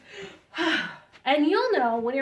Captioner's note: sighs